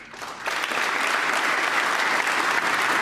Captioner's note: applause